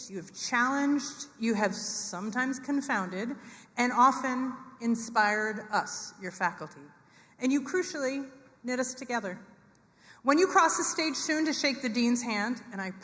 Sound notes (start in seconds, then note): none